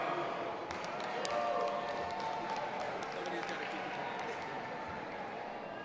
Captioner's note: audience applauding and cheering